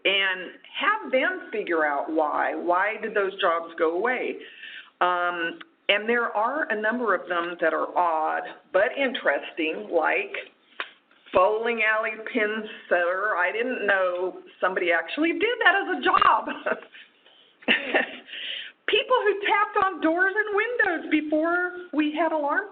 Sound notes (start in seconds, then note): 17.6 laughs